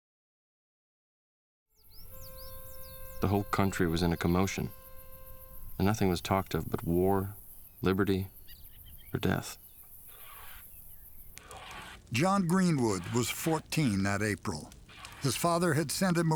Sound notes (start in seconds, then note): 1.6 birds chirping; 9.8 scraping